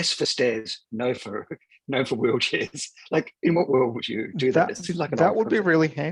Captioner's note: laughs